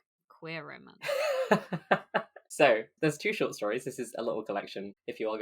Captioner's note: laughs